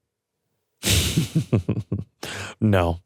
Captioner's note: chuckles